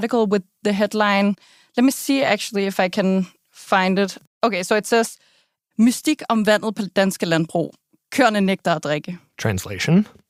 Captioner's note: speaking Danish